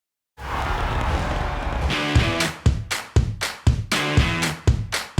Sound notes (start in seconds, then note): 0.4 crowd cheering